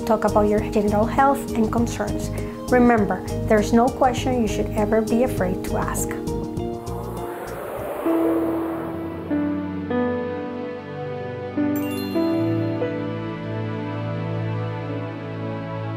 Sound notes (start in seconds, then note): 6.6 digital whooshing; 9.1 low-key music